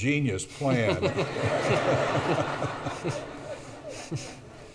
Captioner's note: audience laughs